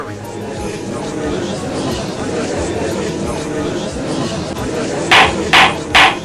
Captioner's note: gallery chattering!; gavel slams!